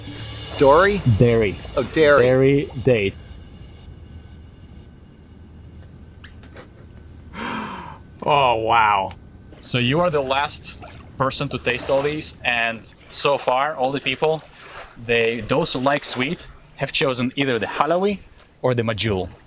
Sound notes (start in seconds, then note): 7.2 laughing